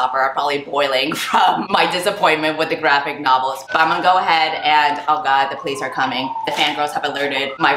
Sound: sirens play in the background

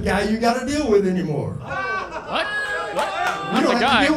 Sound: audience laughing

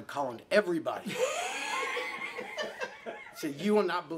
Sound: laughing

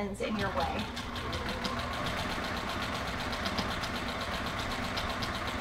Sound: sewing machine whirring

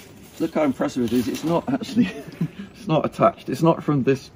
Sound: chuckles

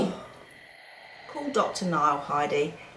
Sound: oxygen mask breathing sound

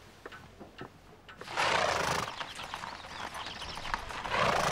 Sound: horse snorts

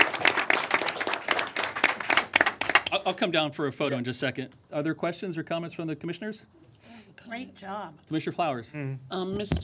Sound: applause

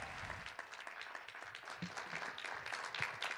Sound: cheers and applause

